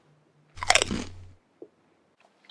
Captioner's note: sandwich crunching noise